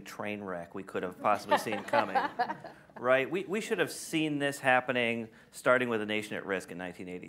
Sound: laughter

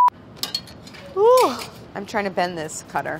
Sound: yawns

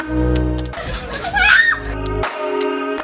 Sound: scream

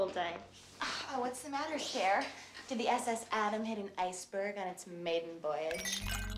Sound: none

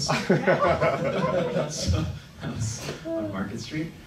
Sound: laughing

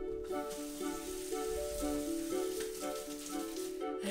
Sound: washing

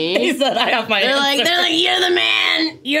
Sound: laughs

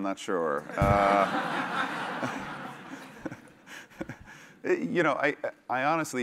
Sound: laugh

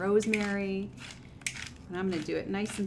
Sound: grinder clicking

